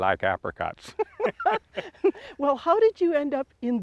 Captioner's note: laugh